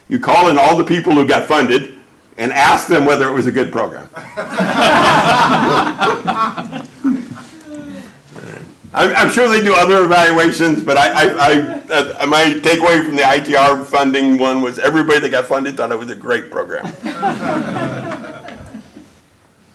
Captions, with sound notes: You call in all the people who got funded and ask them whether it was a good program. [LAUGHING] I'm sure they do other evaluations, but my takeaway from the ITR funding one was everybody that got funded thought it was a great program. [LAUGHING]